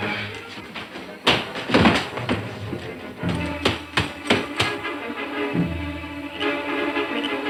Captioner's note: running footsteps; dramatic orchestral music